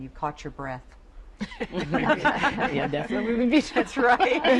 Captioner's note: laughter